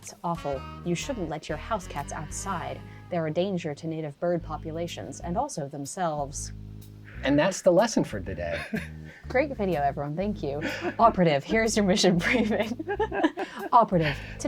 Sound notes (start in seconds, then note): 8.4 laughing; 10.6 laughing